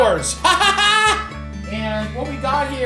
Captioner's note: Matty laughs